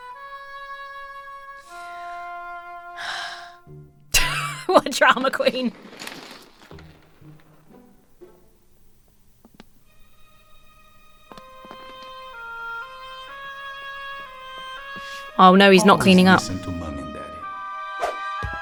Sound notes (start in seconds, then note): 3.0 sighs; 3.0 wheezes; 5.1 toy clattering; 7.0 whimsical music